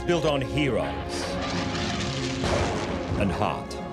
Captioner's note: plane flying; lighting bursts